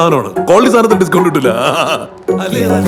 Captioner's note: laughing